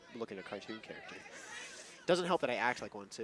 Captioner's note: chuckles